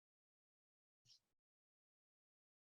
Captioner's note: speaking Anishinaabe